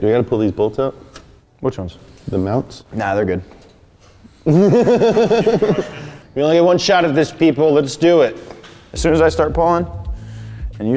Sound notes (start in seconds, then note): 4.4 laughs